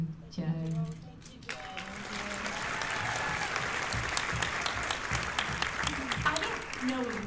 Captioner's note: applause